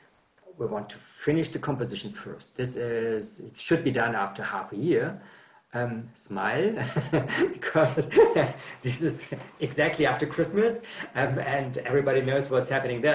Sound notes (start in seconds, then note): 6.7 laughs